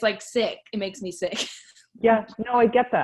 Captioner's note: laughs